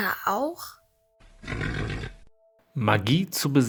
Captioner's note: grim snort